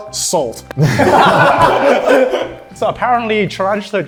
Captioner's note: everyone laughs